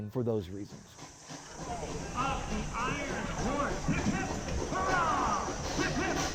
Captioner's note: train steam hissing; people chattering